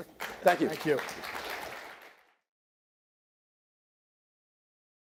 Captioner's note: audience claps